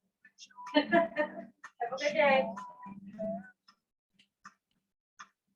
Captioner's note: laughs